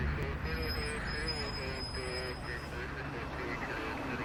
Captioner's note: distorted police radio